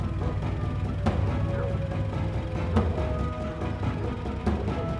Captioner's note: police sirens blaring